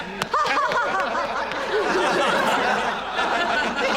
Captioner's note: laughter continues